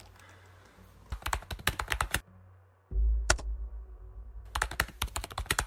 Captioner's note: keyboard clacking